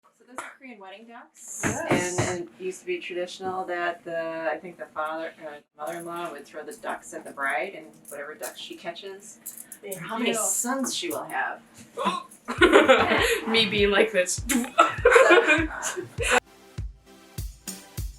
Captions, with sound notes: So these are Korean Wedding Ducks. Yes! And it used to be traditional that the uh.. I think the father - the mother in law would throw the ducks at the bride and whatever ducks she catches would be how many sons she will have. Oh! Me being like this - *bass boosted noise*